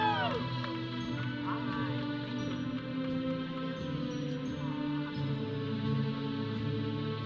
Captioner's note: audience cheering; processional music; audience chattering